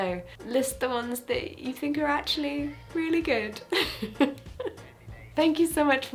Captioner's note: laughs